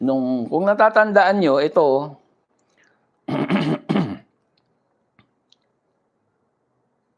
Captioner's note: coughs; clears throat